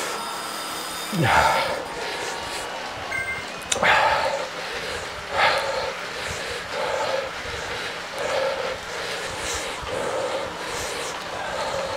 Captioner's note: breathing